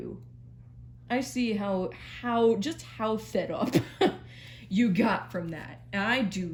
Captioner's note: laughs